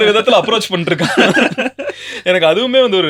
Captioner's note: laughter